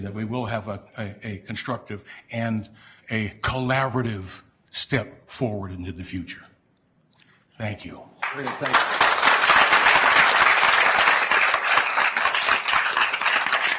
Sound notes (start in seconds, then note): 8.2 attendees applauding